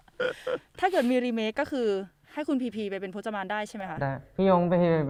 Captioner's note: laugh